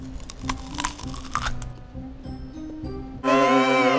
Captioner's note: onion crunches; lighthearted music